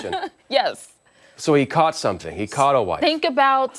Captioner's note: laughter